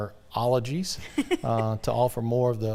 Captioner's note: laughing